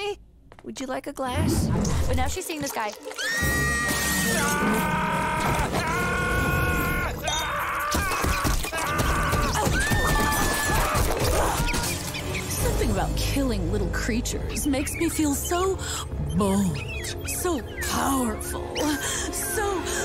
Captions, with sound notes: Would you like a glass? But now she's seeing this guy- [screaming] [screaming] Something about killing little creatures makes me feel so bold, so powerful, so-